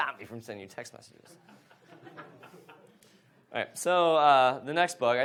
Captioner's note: audience laughs